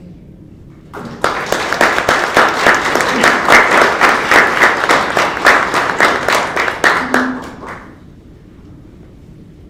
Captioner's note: applause